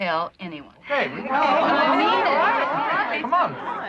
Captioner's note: chattering